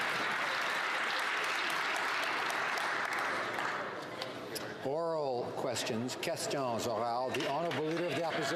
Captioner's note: some Applause